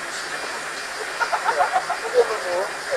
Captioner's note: laugh